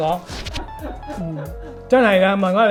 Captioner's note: laughs